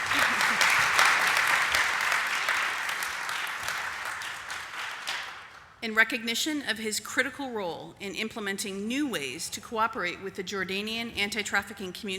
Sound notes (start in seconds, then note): 0.0 applause